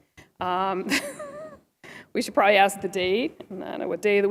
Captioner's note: laughter